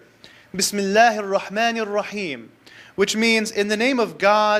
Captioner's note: speaks Arabic